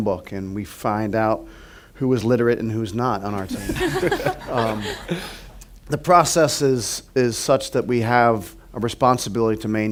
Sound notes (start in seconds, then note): 3.4 laughter